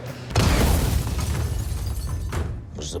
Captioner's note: explosion